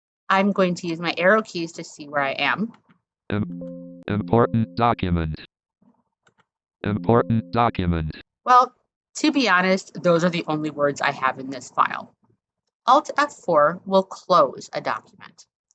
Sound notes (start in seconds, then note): 6.9 screen reader dings